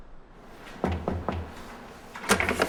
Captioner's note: knocking on door